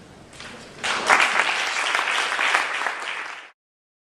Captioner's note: applause